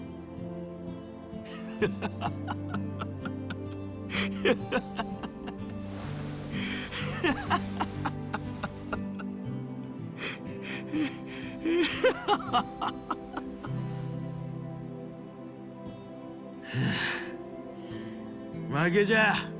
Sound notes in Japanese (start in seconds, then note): 1.8 笑い; 7.7 笑い